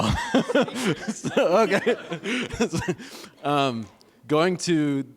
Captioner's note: laughter